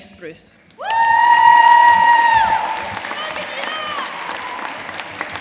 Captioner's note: audience cheering and applauding